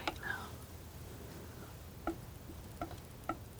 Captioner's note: tapping